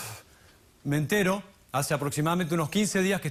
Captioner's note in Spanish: exhala